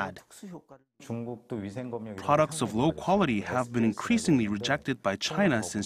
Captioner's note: Korean